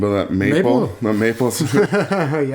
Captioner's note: laughter